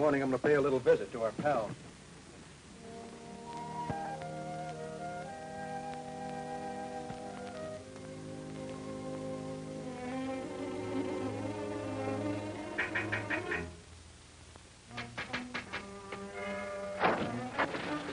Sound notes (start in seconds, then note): 12.9 knocking on window; 15.4 dramatic music